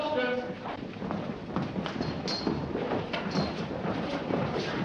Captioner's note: footsteps